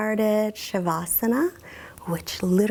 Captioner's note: speaks in foreign language